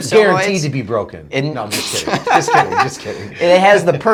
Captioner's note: laughing